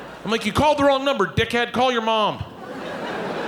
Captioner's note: audience laughing